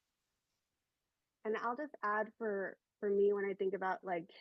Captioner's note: hablando inglés